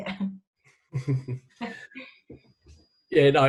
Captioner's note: chuckles